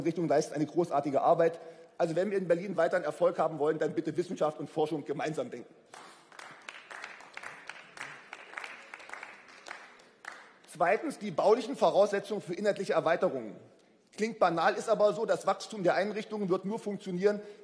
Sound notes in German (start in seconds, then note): 5.9 Beifall